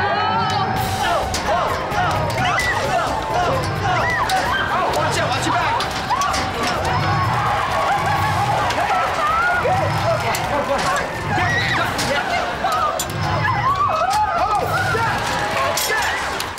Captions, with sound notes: [chanting] [squealing] Watch out! Watch your back! Okay! Duck! Oh! Yes! Yes!